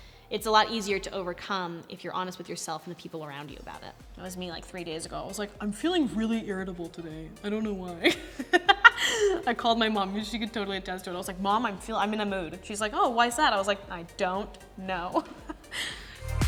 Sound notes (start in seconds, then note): 8.0 laughs